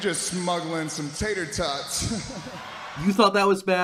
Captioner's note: laughing